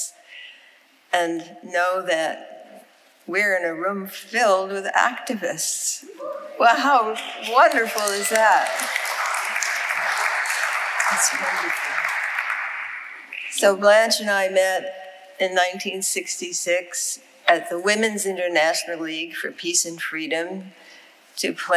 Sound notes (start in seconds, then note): 8.9 audience applauding